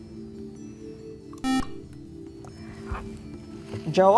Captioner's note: beeping